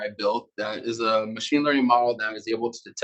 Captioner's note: male Voice